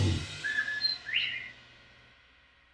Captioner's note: bobwhite quail whistle